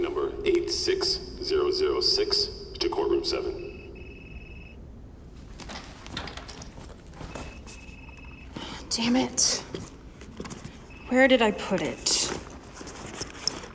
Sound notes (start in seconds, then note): 0.0 footsteps echoing; 0.4 loudspeaker; 4.7 phone ringing